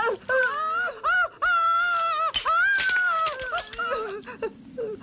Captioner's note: woman shrieking